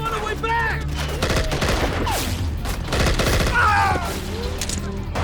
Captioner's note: gunfire rattling; man screams